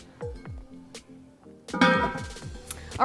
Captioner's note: upbeat music; lid clattering